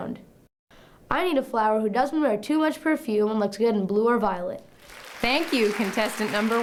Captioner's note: applause